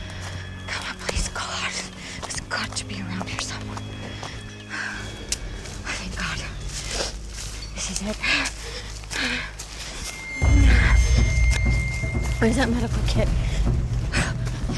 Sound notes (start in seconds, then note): 8.0 panting